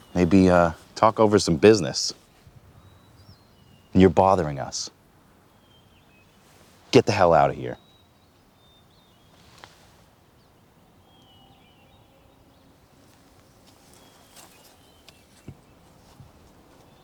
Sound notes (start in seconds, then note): 10.2 birds singing